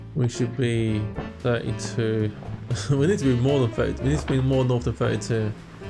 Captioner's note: laughs